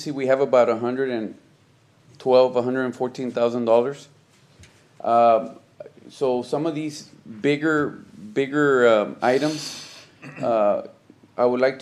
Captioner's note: clears throat